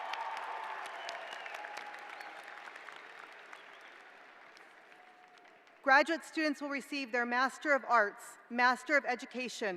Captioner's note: cheers and applause